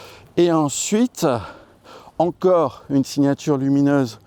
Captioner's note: none